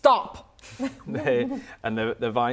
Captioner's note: laughter